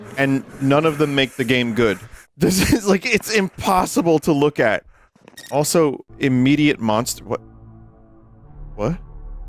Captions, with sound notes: and none of them make the game good. (laughing) This is, like, it's impossible to look at! Also, immediate monst- What? What?